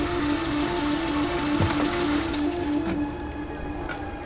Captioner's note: the police siren is ringing